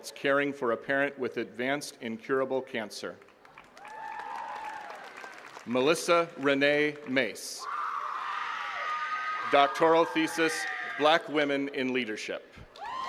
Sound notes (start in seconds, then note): 3.2 attendees cheering and clapping; 7.5 attendees cheering